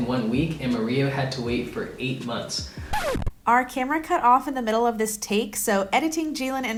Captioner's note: record scratch